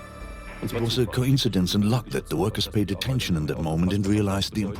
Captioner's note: dubbed in English